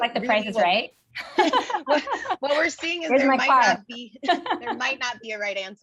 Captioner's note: laugh